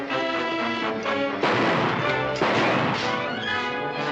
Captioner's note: gunshots